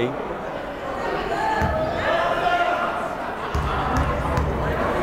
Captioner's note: yelling